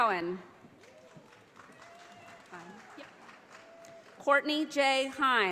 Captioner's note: audience applauding